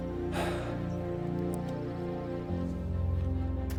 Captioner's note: Kent sighing